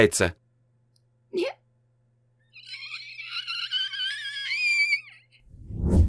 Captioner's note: sobbing